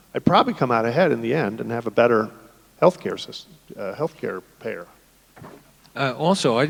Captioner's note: none